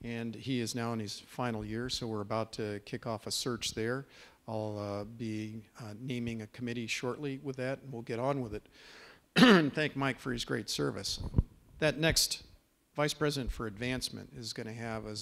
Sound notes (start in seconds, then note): 9.3 clears throat